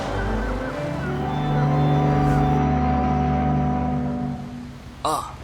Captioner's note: fog horn sounds